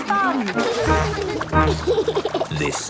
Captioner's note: giggles